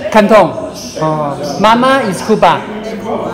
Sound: Cantonese

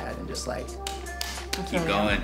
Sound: clapping

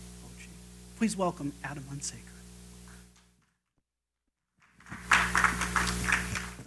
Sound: applause

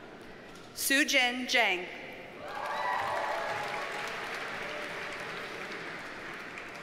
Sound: audience cheers and applauds

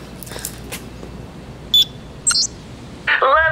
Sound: beeping

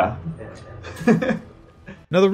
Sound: laughs

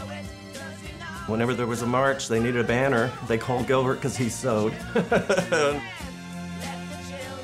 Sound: laughs

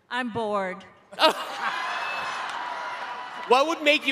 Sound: laughing

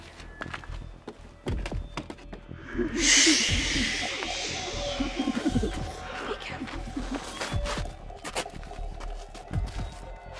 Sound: whispering

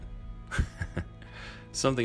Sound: laughing

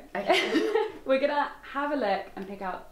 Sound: giggles

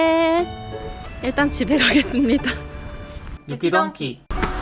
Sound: haha

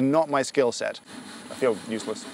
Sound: roaster roasting

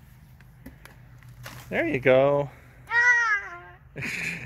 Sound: laughs

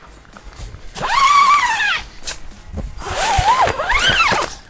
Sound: zipping

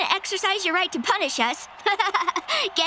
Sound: laughing

